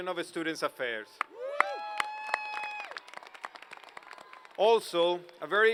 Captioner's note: applause